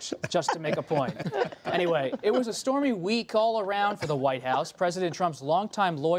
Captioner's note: laughter